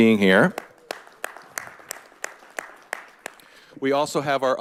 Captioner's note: all applauding